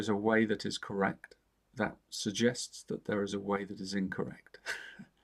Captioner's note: chuckles